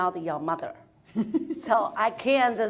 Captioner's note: panelists laughing